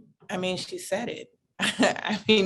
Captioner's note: chuckles